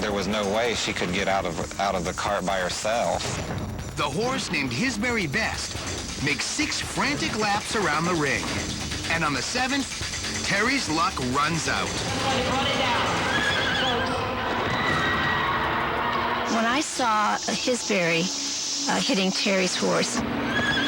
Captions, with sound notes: THERE WAS NO WAY SHE COULD GET OUT OF THE CART BY HERSELF. THE HORSE NAMED "HIS VERY BEST" MAKES SIX FRANTIC LAPS AROUND THE RING, AND ON THE SEVENTH, TERRIE'S LUCK RUNS OUT. [ HORSE NEIGHS ] [ CROWD SCREAMING ] WHEN I SAW HIS VERY HITTING TERRIE'S HORSE...